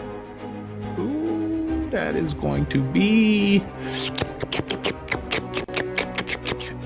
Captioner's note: slurping